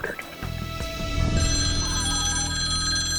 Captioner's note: phone ringing